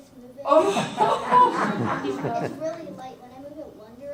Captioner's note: audience laughs